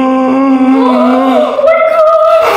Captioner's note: gasps